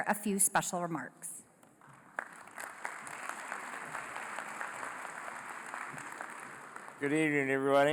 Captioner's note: applause